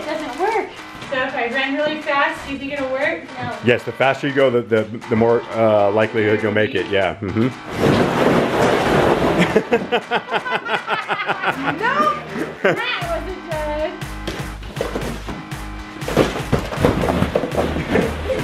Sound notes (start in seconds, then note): 7.6 balls crunching; 9.4 laughs; 14.6 light music